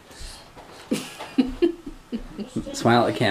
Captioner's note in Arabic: يضحك